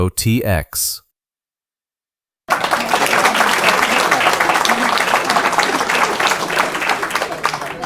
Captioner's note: applause